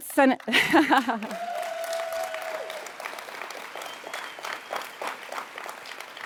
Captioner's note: laughs; audience cheers